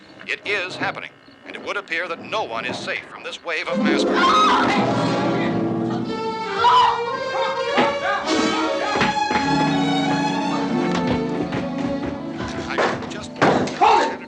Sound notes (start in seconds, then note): 4.2 screams; 6.4 barbra screams; 11.7 radio continues